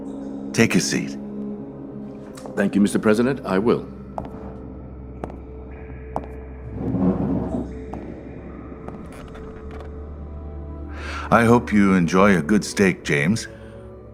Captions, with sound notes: Take a seat. Thank you, Mr. President, I will. (footsteps) (chair shuffling on the floor) I hope you enjoy a good steak, James.